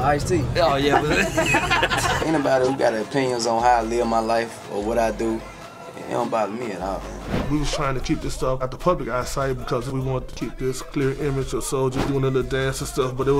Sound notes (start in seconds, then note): 0.7 laughter